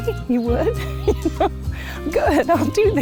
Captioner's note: laughing